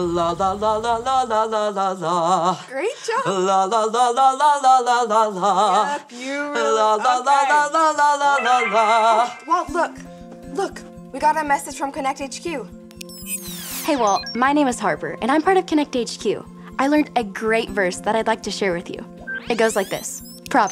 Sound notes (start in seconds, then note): 8.9 computer dings; 10.9 gentle music